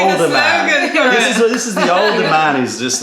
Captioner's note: laughter